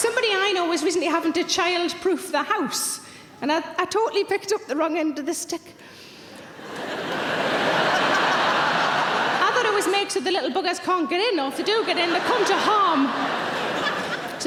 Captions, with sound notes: Somebody I know was recently having to childproof the house, and I totally picked up the wrong end of the stick. (audience laughing) I thought it was made so the little buggers, can't get in, or if they do get in, they come to harm.